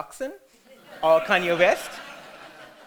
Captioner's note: audience laughter